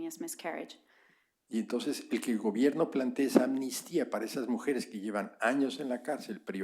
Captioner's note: spanish